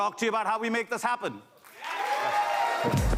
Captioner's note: applause